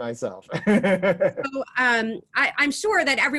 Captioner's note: laughing